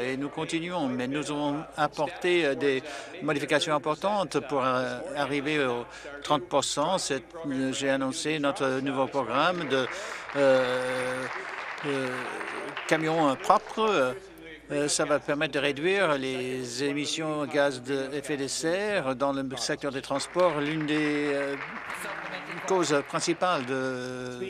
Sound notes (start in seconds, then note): 14.9 applause